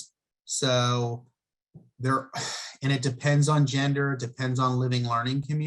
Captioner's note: sighs